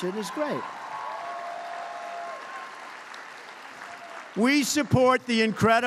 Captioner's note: applause